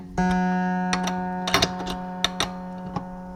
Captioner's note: clattering